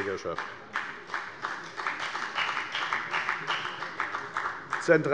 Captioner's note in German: Beifall bei der FDP